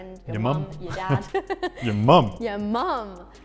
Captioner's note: laughs